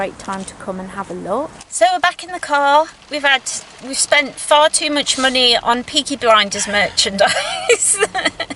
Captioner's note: laughs